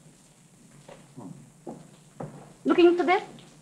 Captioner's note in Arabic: يدندن